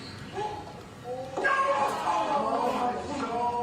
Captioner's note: cheering